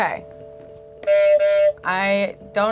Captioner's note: buzzer honks